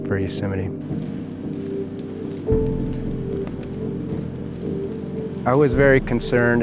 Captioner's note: fire crackling